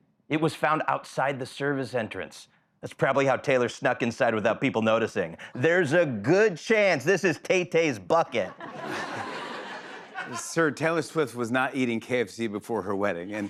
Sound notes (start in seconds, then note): 8.3 laughter